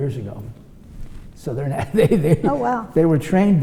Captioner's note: laughs